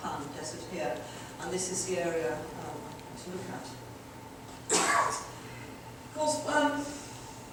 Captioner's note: audience member coughs